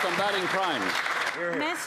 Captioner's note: applause